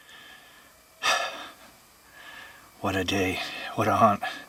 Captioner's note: exhales deeply